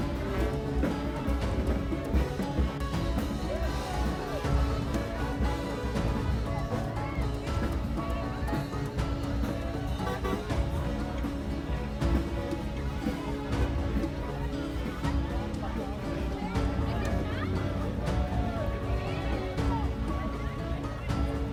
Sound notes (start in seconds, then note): 0.3 gentle music; 9.8 horn honking; 12.9 dramatic music